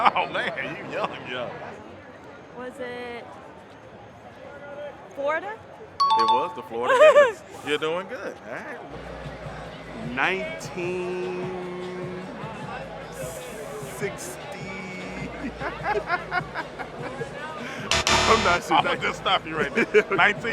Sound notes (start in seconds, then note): 6.0 chime dings; 15.0 both laugh; 17.9 X buzzes